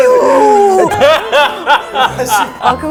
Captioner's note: laughter★★★★★